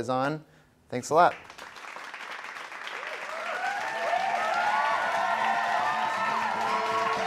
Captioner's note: applause and cheering